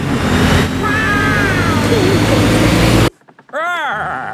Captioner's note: laughing